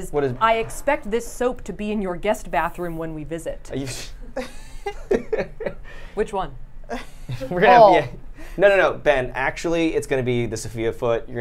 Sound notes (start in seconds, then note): 4.0 swooshes; 4.2 laughs